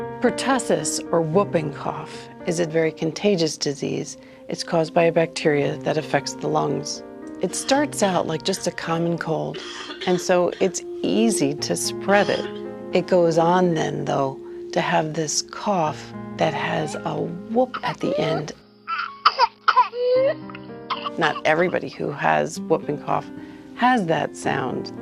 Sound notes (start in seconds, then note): 9.4 coughing; 17.2 whooping; 18.8 coughing